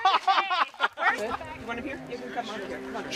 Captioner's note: laughter